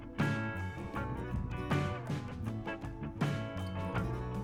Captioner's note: wind Blowing